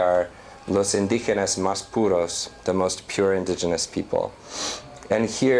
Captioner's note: non-english